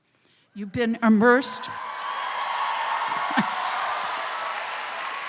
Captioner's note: crowd cheers